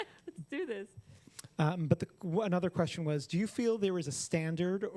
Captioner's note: laughter